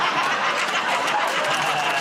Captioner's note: laughter